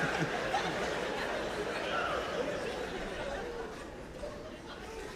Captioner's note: chuckles